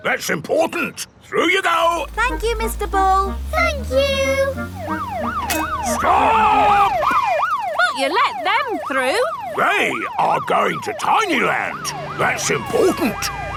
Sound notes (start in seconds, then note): 5.2 siren wailing